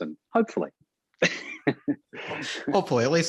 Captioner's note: Murray chuckles